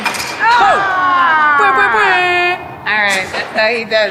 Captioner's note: cheering